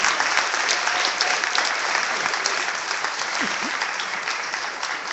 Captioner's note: clapping